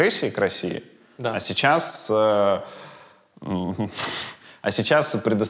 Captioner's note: chuckles